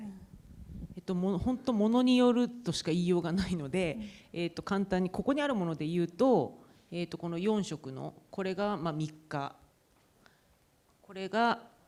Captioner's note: speaking japanese